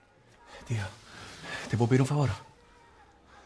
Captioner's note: no accent